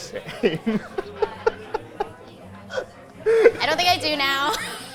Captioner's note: both laughing